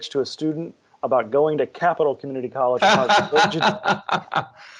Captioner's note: laughs